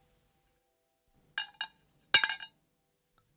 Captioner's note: SFX: spoon hitting cup